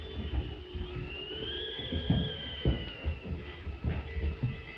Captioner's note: wind howling